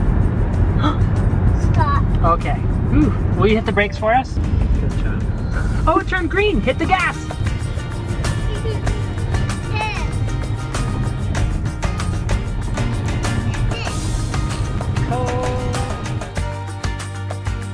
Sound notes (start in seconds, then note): 0.8 gasps; 12.7 blows raspberry; 15.1 upbeat music